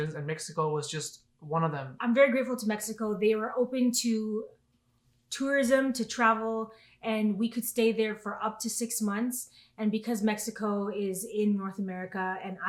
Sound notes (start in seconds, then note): none